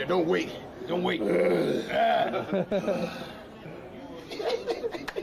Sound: both growl; laughing

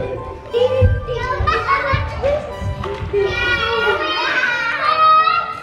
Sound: kids scream and play

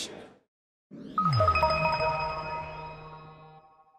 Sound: logo chiming

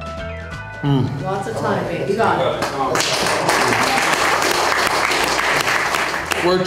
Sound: crowd clapping

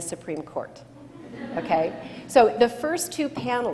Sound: laughter

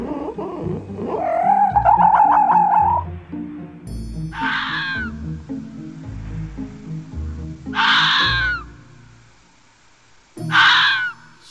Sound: fox Sounds

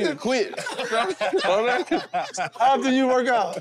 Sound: group laughs

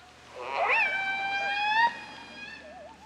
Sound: orca Sounds

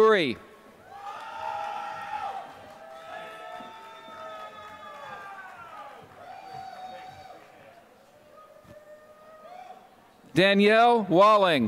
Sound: applause

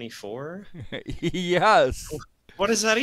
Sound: giggling

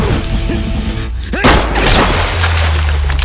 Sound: gunshot

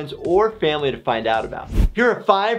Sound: air whooshing

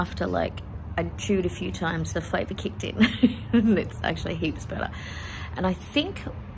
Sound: laughs

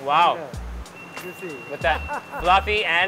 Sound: speaking in foreign language

